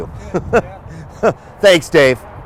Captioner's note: laughs